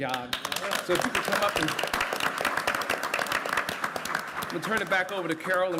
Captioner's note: applause